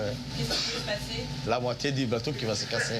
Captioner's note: captain speaking foreign language; woman speaking foreign language; captain speaking foreign language